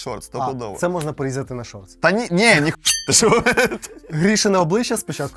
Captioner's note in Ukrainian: сміх